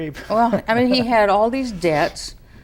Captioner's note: laughs